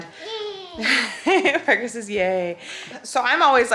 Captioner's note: laughs